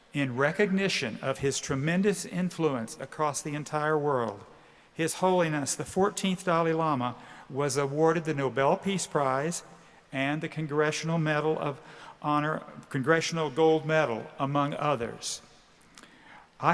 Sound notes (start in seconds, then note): none